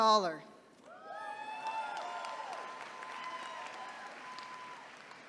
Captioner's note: attendees cheering